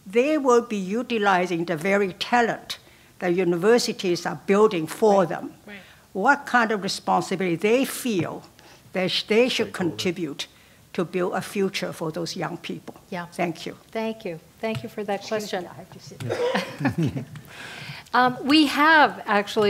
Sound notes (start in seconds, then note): 16.2 laugh